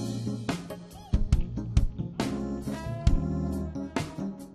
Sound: man cheers

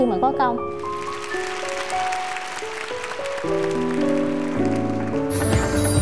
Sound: applause

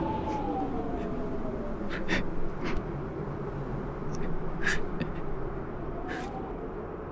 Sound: sniffing

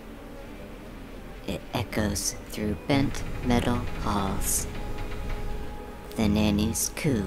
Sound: metal slowly creaking under stress

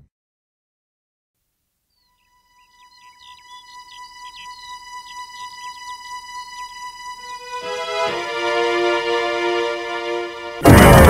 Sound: birds Chirping

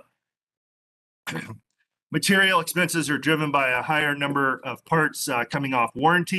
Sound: coughing

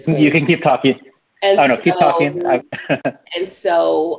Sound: laughs

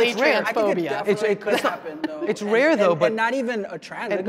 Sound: group chattering

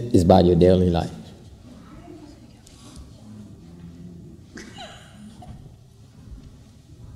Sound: laugther

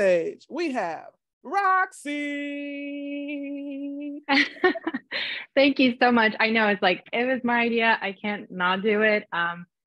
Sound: laughter

